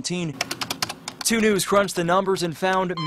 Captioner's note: sound of typing